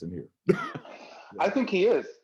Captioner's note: laughs